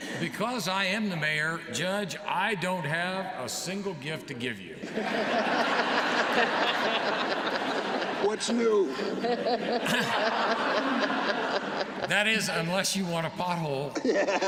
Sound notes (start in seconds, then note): 5.3 laughter; 9.2 laughter; 13.9 laughter